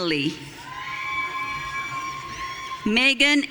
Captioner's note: audience cheering